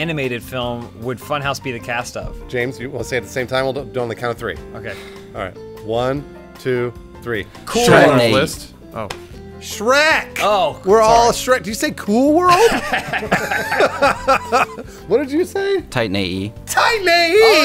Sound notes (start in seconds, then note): 10.2 exasperated; 12.5 laughs; 12.5 wheeze laughs; 16.7 yelling